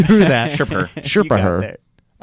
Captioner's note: laughing